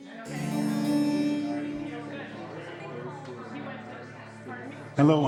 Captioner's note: people chattering